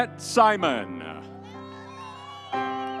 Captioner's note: audience cheering; soft music continues